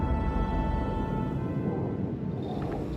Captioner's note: ship engine rumbling